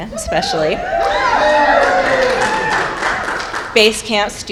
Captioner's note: cheers and applause